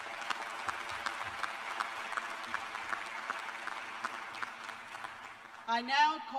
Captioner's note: applause